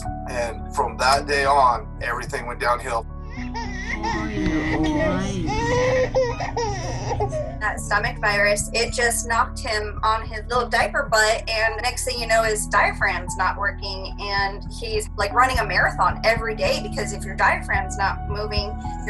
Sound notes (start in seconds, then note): 3.5 crying